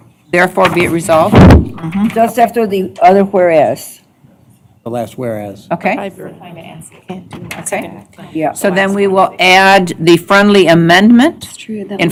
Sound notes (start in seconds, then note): 7.0 indistinct chatter